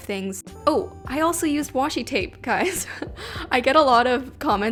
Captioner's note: laughs